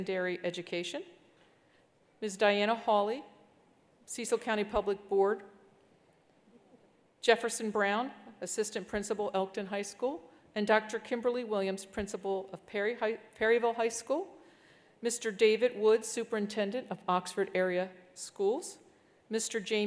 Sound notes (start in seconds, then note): none